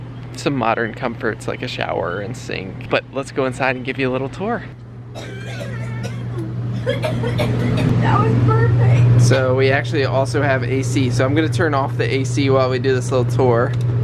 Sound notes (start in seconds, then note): 5.1 coughing